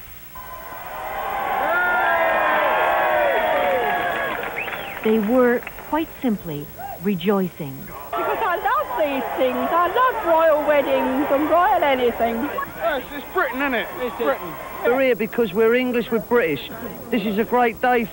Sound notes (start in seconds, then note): 4.7 cheering